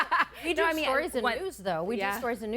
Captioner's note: laughing